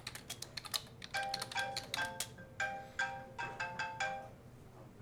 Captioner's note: phone ringing